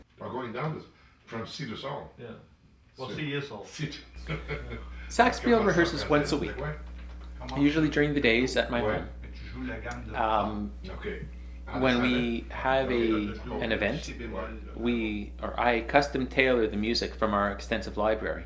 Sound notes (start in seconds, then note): 0.8 band Conversing